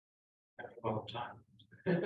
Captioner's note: laugh